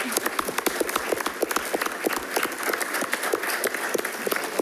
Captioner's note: attendees clapping